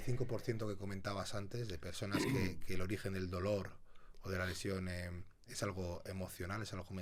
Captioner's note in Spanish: carraspeo